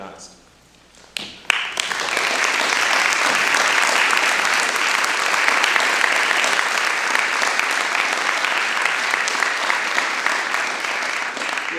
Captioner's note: applause